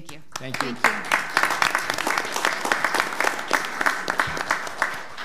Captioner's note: audience clapping